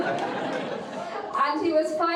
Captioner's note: audience laughing